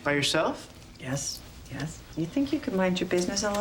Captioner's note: none